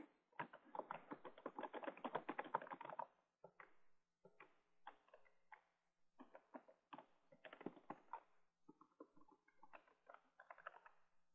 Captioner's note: typing Sounds